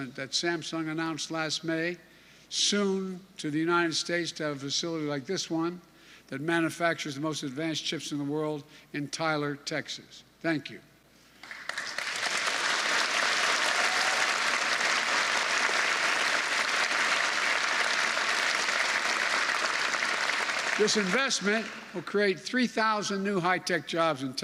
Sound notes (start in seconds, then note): 11.4 applause